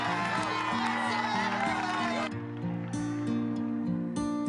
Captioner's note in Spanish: Aplausos